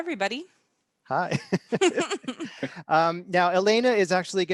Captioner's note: chuckle